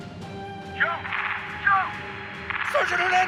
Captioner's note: rapid gunfire over walkie-talkie